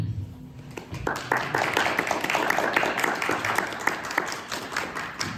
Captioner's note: audience applauding